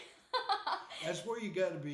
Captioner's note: laughing